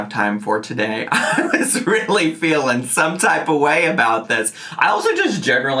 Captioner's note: laughing